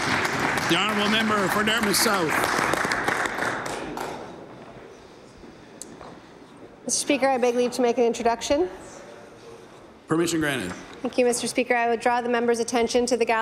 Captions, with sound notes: SUPPORTING THOSE THAT BRING JUSTICE VICTIMS. THANK YOU, MR. SPEAKER. [APPLAUSE] MEMBER FOR DARTMOUTH SOUTH. >> I BEG TO